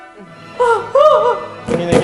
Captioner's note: mock sobbing